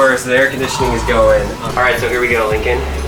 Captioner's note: sighs